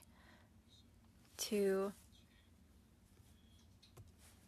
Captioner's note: speaking French